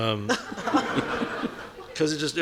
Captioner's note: audience laughing